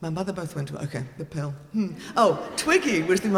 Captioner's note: audience laughing